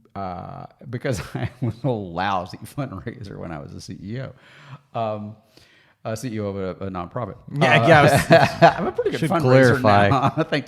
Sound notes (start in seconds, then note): 7.6 chuckles